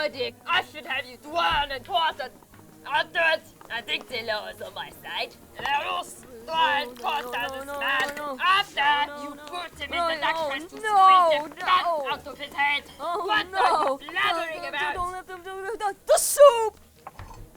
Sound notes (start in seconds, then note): 14.7 stuttering